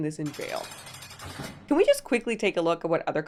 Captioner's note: metal rattles